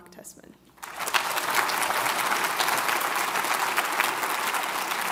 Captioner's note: audience applauds